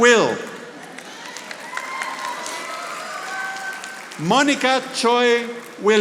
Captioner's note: audience applauding